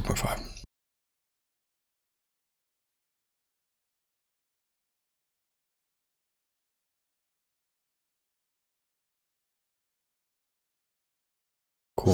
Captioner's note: blank Audio